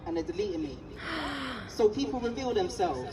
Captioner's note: gasps